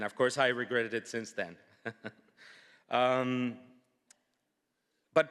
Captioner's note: laughs